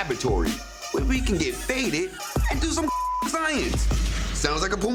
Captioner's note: beep